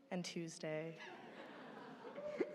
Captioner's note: laughter